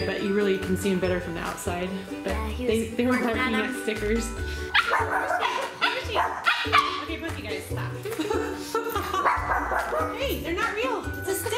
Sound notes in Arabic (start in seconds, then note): 4.7 نباح